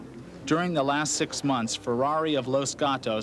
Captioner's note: voiceover